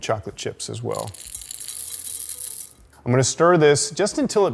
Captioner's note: chocolate chips rattling